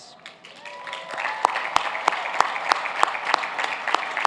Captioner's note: cheers and applause